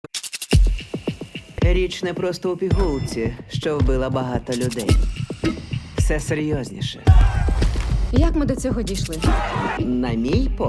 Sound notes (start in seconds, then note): 0.0 dramatic music playing; 7.1 protesters shouting